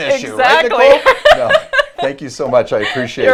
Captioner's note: laughs